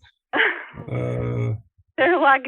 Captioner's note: laughs